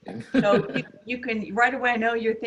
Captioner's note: laughs